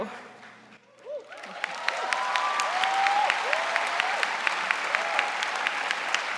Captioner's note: audience cheering and applauding